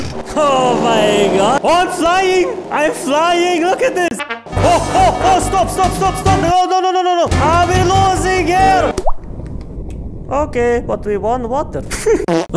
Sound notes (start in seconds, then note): 8.8 plopp; 11.8 laughs